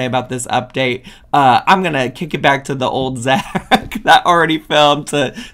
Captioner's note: laughs